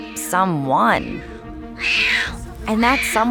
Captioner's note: crying